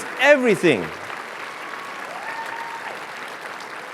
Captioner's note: cheers and applause